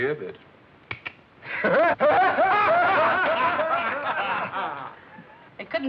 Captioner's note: laughter